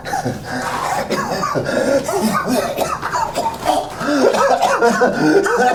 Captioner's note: Miles breathes heavily and groans; Miles coughs and pants